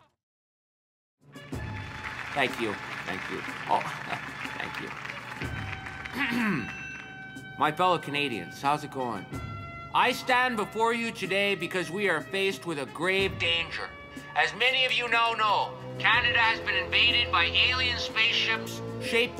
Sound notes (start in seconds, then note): 1.3 applause and music; 6.1 clearing his throat